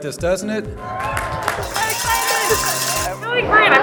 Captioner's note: crowd cheering